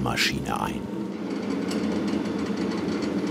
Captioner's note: deep, creaking rattling